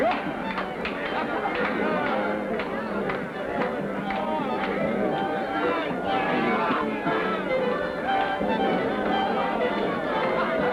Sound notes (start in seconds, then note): 2.0 people chatting; 2.0 upbeat folk music